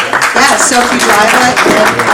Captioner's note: attendees applauding